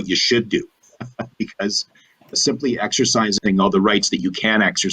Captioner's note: chuckles